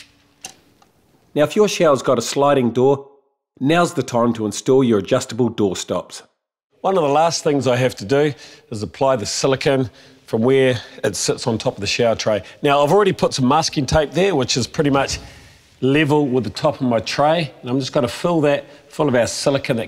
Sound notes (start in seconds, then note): none